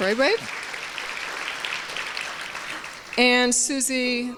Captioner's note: applause